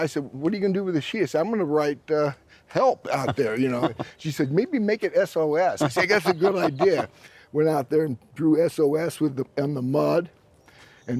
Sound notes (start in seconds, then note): 5.8 laughs